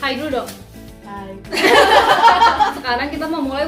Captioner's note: laughing